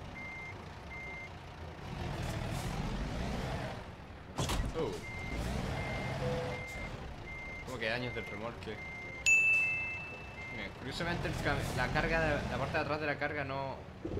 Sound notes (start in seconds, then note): 4.1 crashes; 9.2 ding